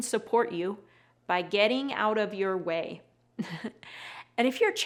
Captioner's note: giggles